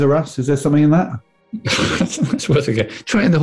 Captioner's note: sniggering